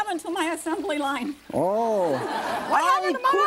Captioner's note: audience laughing